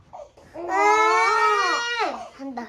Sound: crying

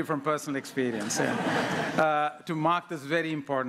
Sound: laughter

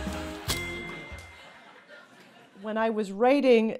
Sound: laughter

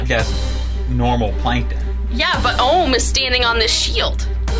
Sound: laughs

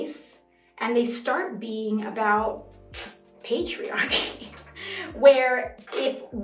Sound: giggles

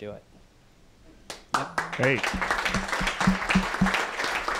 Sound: applause

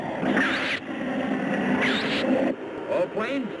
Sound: missiles squeal

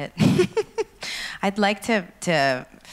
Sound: laughs

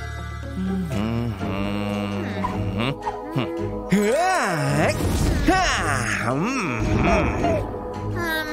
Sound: making happy sounds

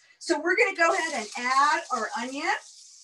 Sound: loud sizzling

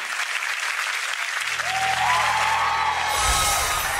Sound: applause

